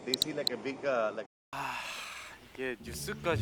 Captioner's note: deep sigh